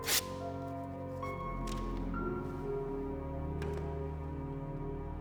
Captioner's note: paper shredding